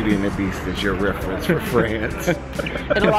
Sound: laughs

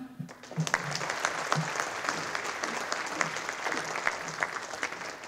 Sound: audience applauding

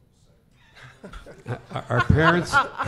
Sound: laughing

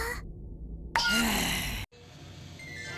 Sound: sigh

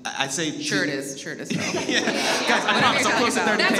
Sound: all laugh

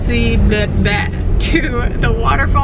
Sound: stuttering

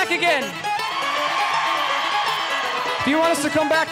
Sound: audience cheering

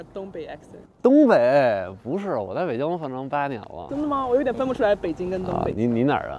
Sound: speaking in foreign language

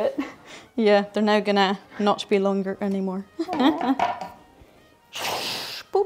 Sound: laughs

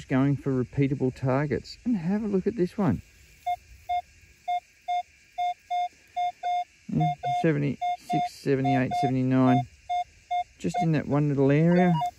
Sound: beep beep

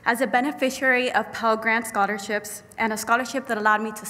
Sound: none

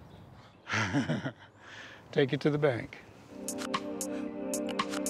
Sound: laughter

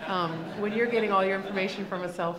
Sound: laughing

